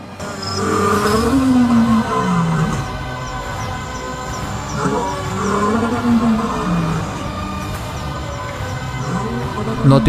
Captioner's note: lion Roar